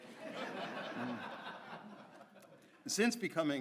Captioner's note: audience laughs